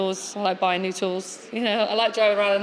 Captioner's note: giggles